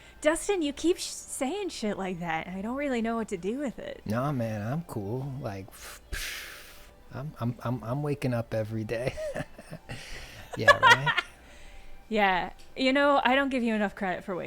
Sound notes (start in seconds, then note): 9.0 chuckling; 9.0 laughing